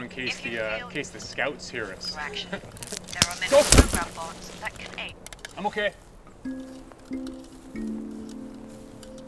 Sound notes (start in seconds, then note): 2.1 laughing; 2.8 twig snaps and Adam thumps to ground